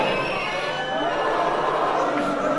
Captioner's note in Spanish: Abucheos